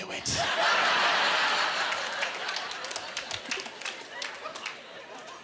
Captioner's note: laughing